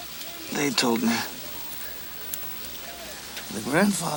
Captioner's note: Ned gasps